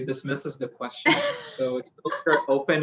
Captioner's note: laugh